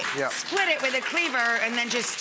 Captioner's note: audience applauding